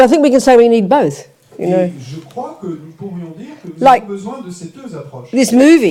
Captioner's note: French